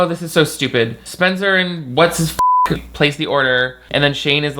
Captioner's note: beep